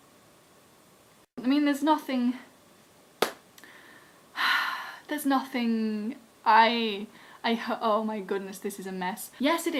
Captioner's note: sigh